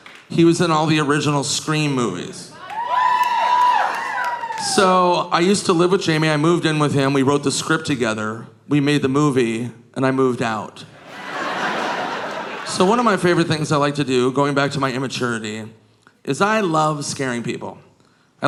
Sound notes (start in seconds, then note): 2.5 audience cheering; 10.9 audience laughing